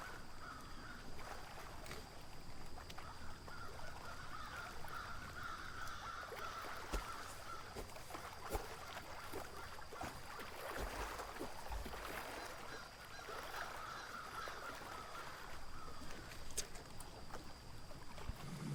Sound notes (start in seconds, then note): 0.2 birds cawing; 0.2 water lapping; 9.5 birds cawing; 9.5 water lapping